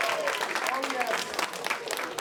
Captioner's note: cheers and applause